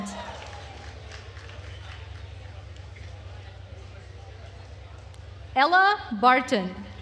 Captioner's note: attendees cheering and applauding